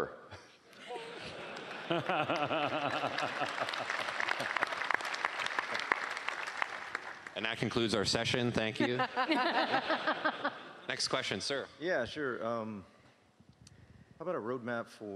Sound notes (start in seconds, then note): 3.7 laughing; 11.4 laughing